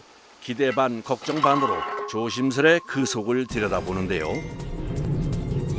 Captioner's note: manhole opening